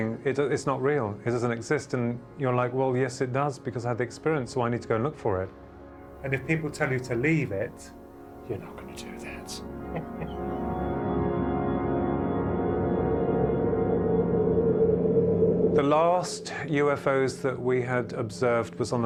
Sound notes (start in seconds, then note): 9.2 chuckles; 12.3 uncanny music